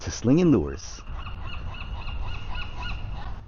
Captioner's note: seagull squawking